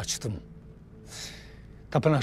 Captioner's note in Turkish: Nefes sesi